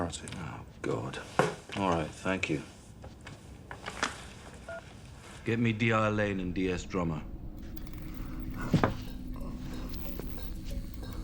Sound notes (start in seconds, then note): 4.6 phone beeps